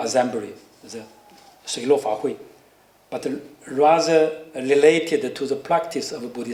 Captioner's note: non-english speech